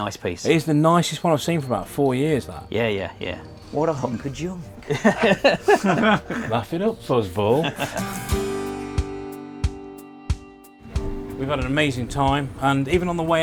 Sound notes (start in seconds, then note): 4.6 both laugh; 7.6 acoustic guitar music